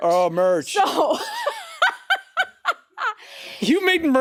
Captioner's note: laughing